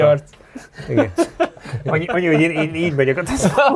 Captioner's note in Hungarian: nevetés